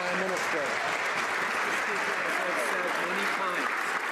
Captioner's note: some Applause